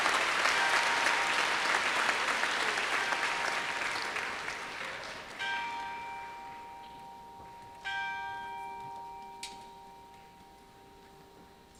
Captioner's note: applause; bell rung 5 times